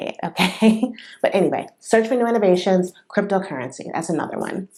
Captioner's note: laughter